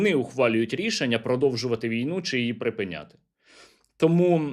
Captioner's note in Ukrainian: сопіння